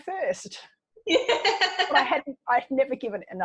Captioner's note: laughing